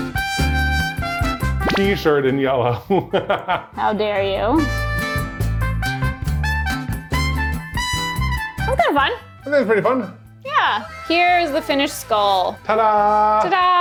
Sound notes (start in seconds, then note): 0.0 upbeat music; 2.8 laughs; 4.9 upbeat music